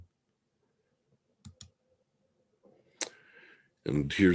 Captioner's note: mouse clicking